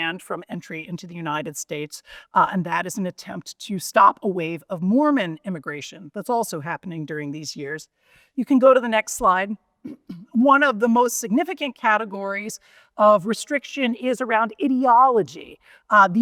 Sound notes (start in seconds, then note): 9.8 clears throat